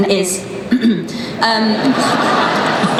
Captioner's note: clears throat; laughing